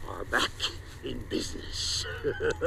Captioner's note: laughs